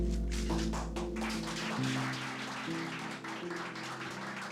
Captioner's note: crowd applauds